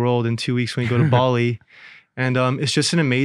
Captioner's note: chuckles